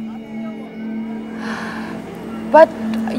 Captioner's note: Falguni sighs